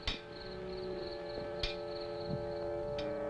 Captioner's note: clanking